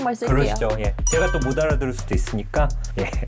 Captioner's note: super friendly sound effect